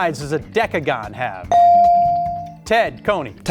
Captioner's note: buzzer chimes